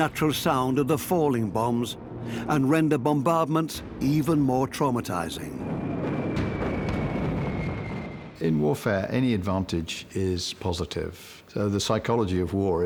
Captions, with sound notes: They amplify the natural sound of falling bs and render bombardments even more traumatizing. (high-pitched whistling) In warfare any advantage is pos.